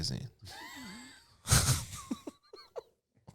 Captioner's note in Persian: صدای خنده